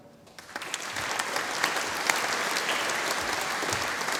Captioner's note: audience applauding